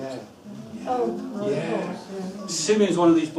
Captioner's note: chatter